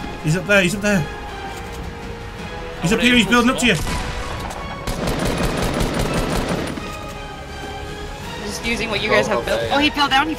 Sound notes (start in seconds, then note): 3.7 gunfire